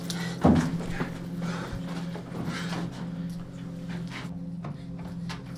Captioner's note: Matt heavy breathing